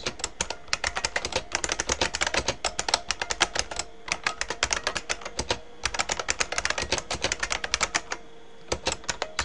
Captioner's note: typing